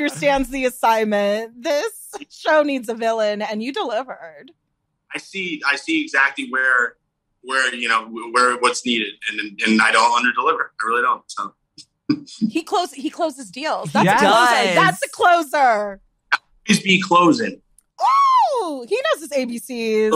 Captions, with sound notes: You're great. - When you said I'm the puppet master. (laughs) I was like this man understands the assignment. This show needs a villain, and you delivered. - I see exactly where what's needed, And I don't under deliver, I really don't. - He closes deals.